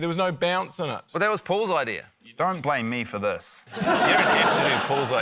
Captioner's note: laughter